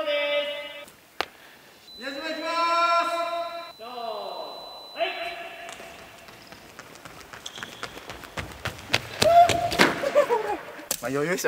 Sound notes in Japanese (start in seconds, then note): 5.1 足音; 10.5 壁に手をつく音